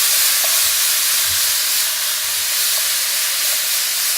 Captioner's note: meat sizzles